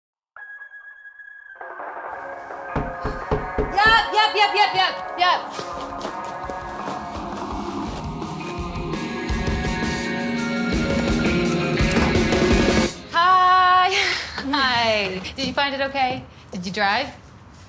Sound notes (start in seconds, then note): 0.2 music on radio; 2.7 knock on door